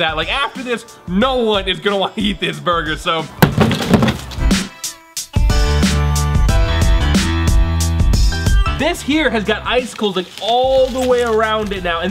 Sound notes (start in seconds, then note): 3.4 hammer bangs; 4.4 dramatic music